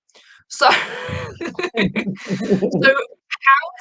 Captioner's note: chuckling